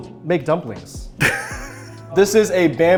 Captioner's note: Simu laughs